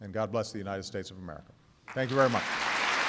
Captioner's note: applause